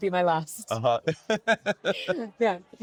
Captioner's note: laughing